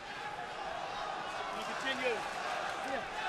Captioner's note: crowd cheering